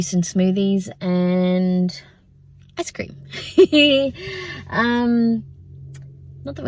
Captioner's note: giggles